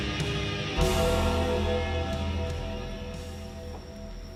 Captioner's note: bell clanging